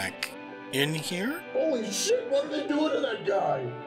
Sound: o.s., yelling

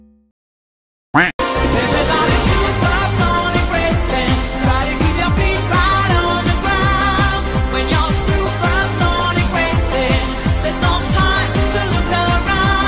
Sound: twerking noises

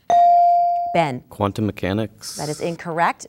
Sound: dinging

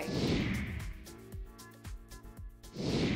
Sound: air whooshing; air whooshing

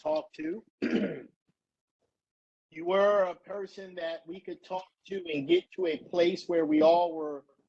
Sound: cough

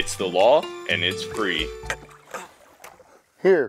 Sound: tired grunting

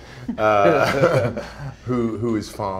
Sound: laughter

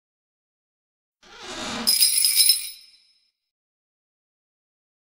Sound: sound of doorbell

